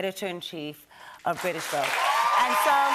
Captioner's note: cheers and applause